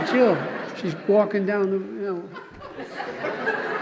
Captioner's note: laughter